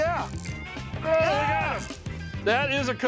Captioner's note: both shouting